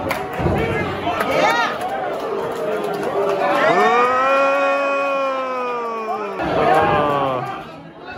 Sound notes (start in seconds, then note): 3.6 crowd boos